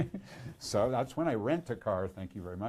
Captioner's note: laughs